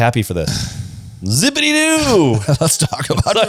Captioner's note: sighs; laughs